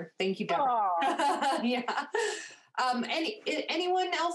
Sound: laughing

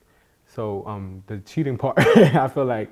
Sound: chuckles

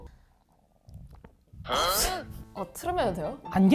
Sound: burp

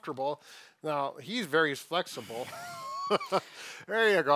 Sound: laughs

